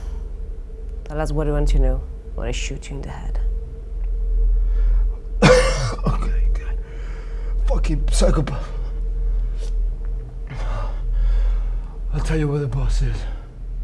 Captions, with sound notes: Tell us what we want to know or I shoot you in the head. (Jimmy coughing) - Okay, God, fucking psychopath. I'll tell you where the boss is.